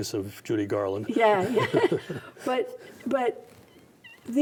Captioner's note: both laughs